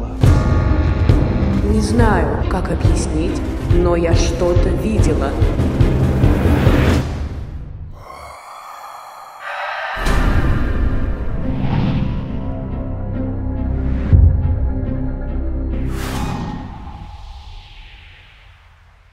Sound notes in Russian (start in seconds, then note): 7.9 жуткий звук; 8.0 крик